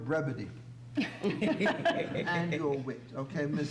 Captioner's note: laughter